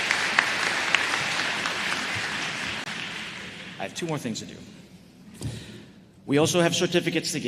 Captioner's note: applause